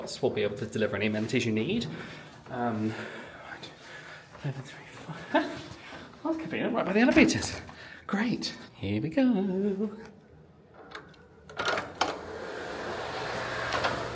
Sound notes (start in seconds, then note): 10.8 lock clicks